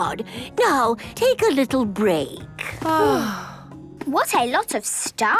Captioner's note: both sighing